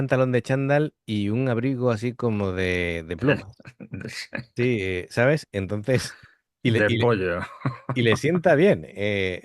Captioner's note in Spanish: risas